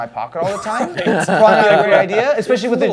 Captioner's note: Man with Augie's hat laughs